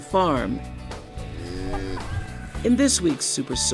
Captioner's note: cow moos